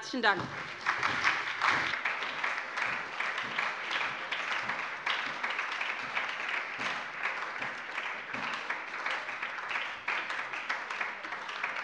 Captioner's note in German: Beifall bei der SPD, der LINKEN und der FDP